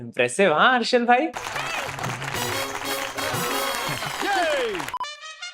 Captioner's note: people applauding; music playing